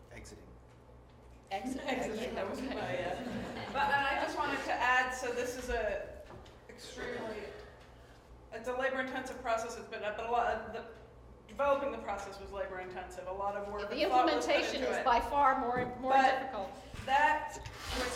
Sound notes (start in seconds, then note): 2.4 laughter